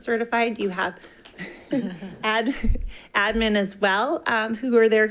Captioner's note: attendants chuckling